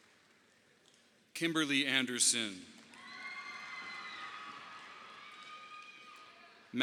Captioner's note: audience applauding; audience applauding